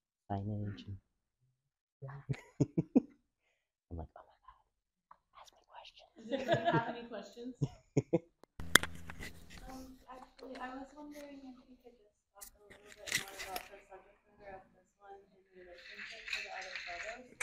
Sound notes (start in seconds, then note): 0.3 murmurs; 5.8 whispers; 7.6 laughs